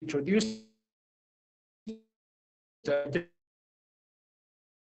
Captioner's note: audio distorts